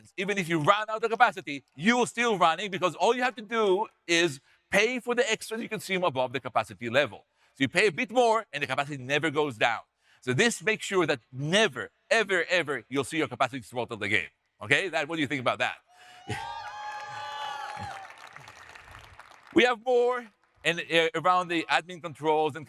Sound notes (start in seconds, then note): 16.0 audience cheering; 16.3 audience applauding